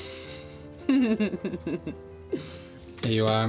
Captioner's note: blowing; chuckling